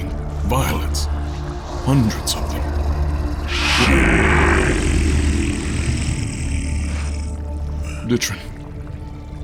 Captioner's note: viscous trickling fluid; echoing